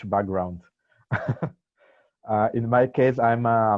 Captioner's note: laughs